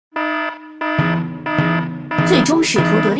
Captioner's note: alarm